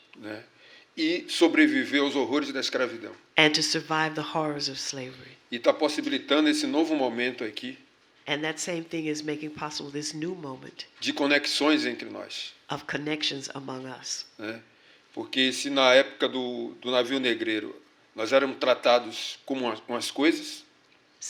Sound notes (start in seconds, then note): 1.8 speaking portuguese; 6.7 speaking portuguese; 11.7 speaking portuguese; 18.2 speaking portuguese